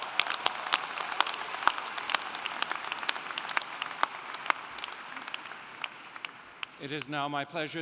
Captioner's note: applauding